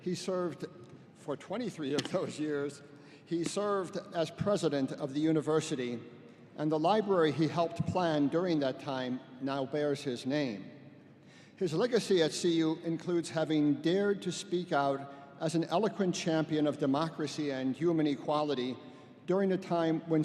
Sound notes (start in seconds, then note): none